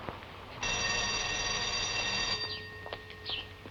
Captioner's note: bell dinging